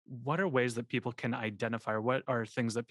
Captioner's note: none